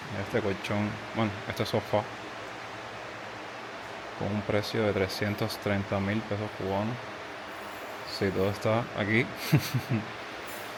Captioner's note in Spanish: risas